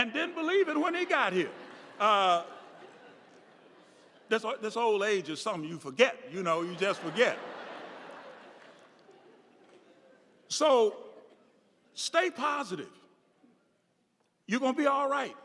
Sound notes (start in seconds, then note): 0.6 audience laughing; 6.4 audience laughing